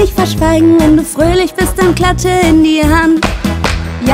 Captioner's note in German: klatsch, klatsch